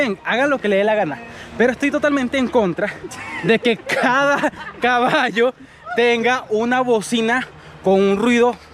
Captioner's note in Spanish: risas